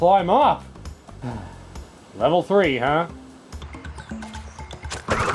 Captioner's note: sigh